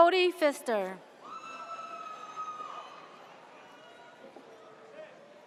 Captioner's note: audience cheers